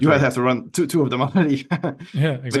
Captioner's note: chuckles